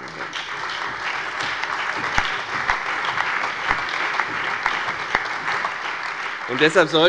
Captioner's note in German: Beifall bei der FDP, der CDU, der SPD und dem BÜNDNIS 90/DIE GRÜNEN